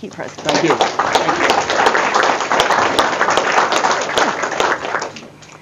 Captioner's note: audience applause